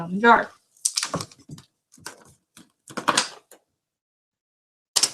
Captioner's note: papers rustling